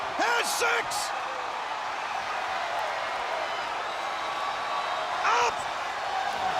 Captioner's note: audience cheering